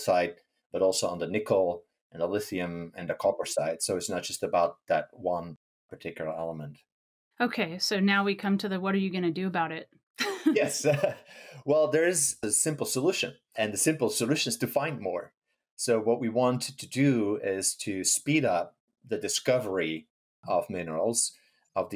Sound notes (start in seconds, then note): 10.2 laughing